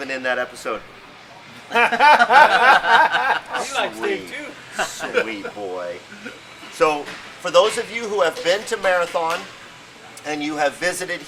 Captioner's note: laughing